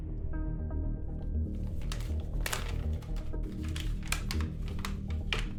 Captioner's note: envelope crackling